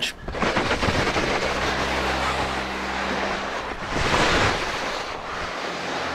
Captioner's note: skies whooshing; snow crunching